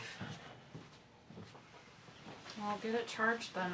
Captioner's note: footsteps shuffle